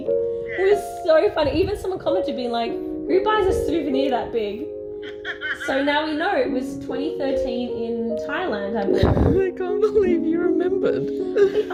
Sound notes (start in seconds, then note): 5.0 laughter